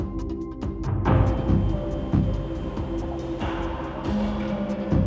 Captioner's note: machinery whirring